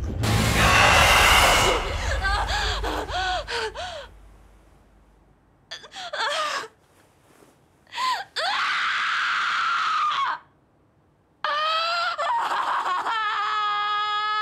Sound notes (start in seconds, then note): 0.6 desperate Crying; 8.5 cries out